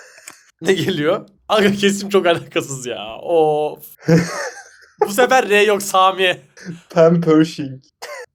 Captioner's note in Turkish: kahkaha